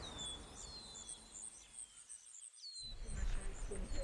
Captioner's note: birds chirping